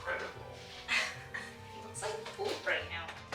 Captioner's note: scoffs